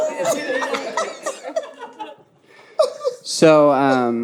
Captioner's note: audience laughing